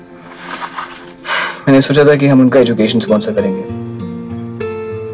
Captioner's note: Sighs